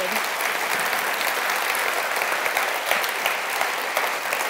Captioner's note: audience applauds